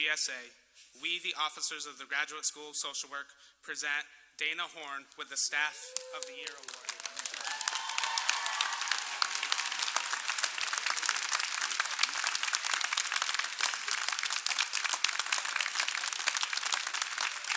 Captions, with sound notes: >> ON BEHALF OF THE GRADUATING CLASS OF 2019 AND THE GSA, WE THE OFFICERS OF THE GRADUATE SCHOOL OF SOCIAL WORK, PRESENT DANA HORNS WITH THE STAFF OF THE YEAR AWARD. [CHEERS AND APPLAUSE]